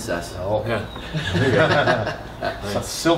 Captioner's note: laughter